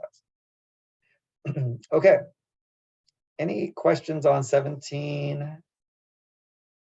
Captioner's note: cough